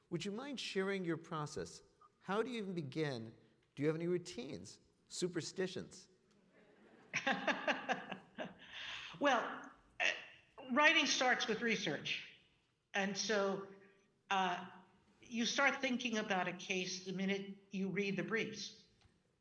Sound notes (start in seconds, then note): 6.5 audience laughing; 7.0 Justice Sonia laughing